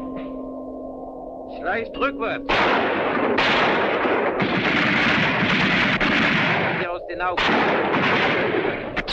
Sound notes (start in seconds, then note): 1.6 speaking in a foreign language; 2.4 gunfire continues